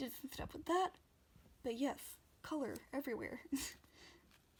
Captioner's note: laughs